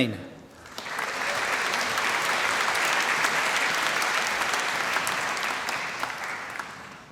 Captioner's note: applause